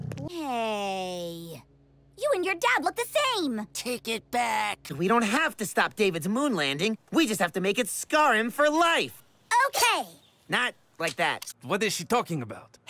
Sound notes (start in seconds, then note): 9.8 knife sound